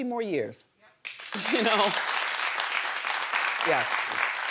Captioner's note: crowd applauding